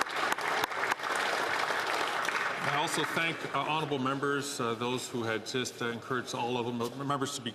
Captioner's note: some Applause